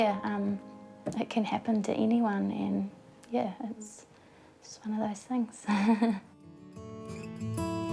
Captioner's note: giggles